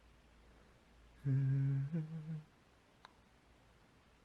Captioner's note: hums so cutely